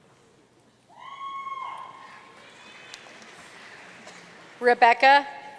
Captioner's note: audience cheering and applauding